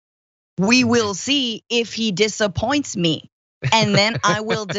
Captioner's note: laugh